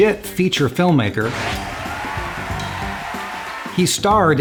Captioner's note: whirring